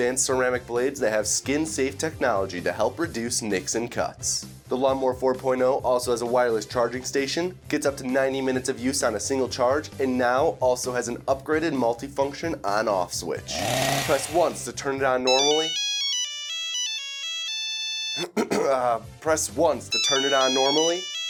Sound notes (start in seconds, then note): 15.2 phone ringing